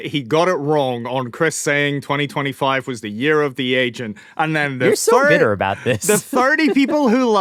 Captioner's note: laughter